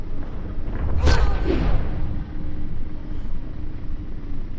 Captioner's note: smacking